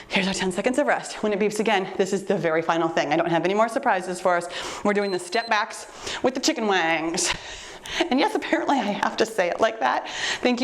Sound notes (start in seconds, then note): 4.9 timer beeps